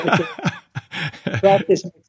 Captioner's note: laughing